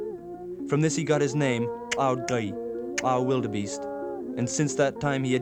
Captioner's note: non-english speech